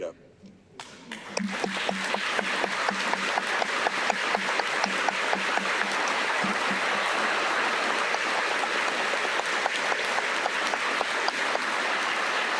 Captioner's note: applause